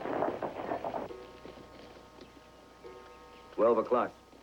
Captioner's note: clock Striking